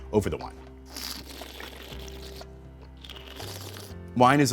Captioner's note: slurping